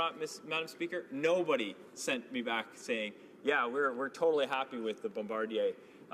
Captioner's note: none